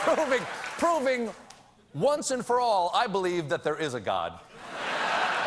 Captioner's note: laughter